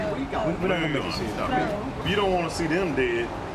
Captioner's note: big Boom